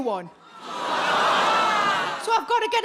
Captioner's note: audience gasps